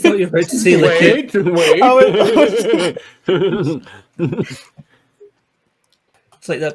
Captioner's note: laughter